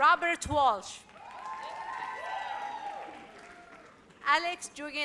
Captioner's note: audience cheers